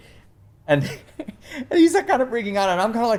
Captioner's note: laughs